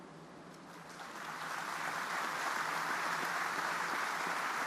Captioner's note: audience applauding